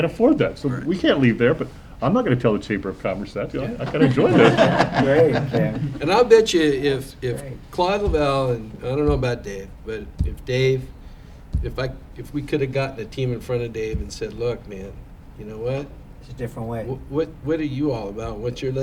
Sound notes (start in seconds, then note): 8.0 laughter